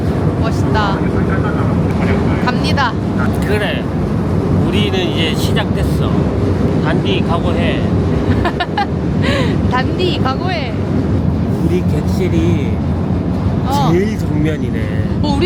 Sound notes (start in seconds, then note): 8.2 laughs